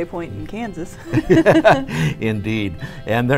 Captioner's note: laughs